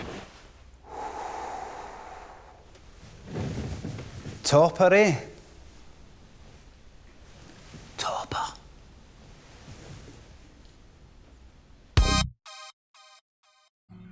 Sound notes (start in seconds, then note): 7.1 whispers